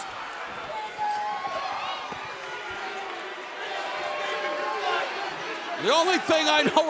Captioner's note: crowd chatter